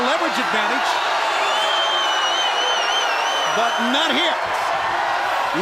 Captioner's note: crowd cheering